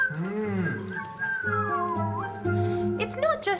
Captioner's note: whistles